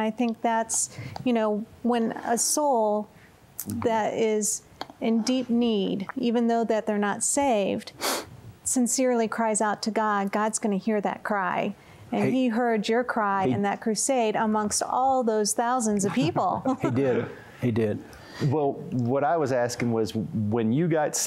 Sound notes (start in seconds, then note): 8.0 sniffs; 16.0 chuckling